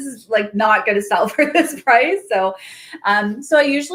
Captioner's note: laughs